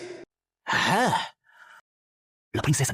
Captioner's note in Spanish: Suspiro